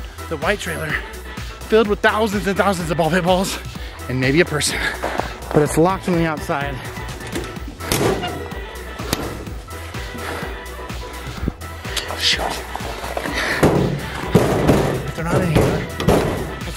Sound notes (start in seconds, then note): 7.1 door opens; 13.3 door closes